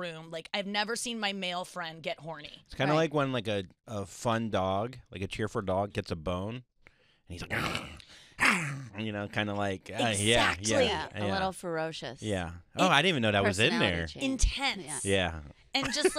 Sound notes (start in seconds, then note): 7.3 groaning noises